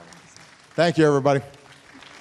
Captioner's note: applause